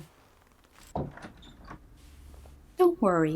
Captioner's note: doorknob clattering